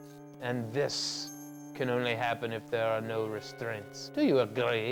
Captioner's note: none